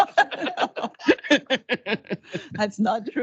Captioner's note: laughing